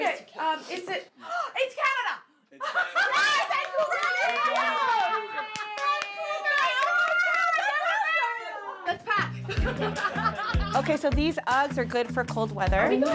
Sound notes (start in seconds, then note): 2.9 group cheers; 5.0 group chattering; 9.8 group laughs